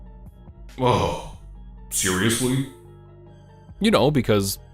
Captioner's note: groans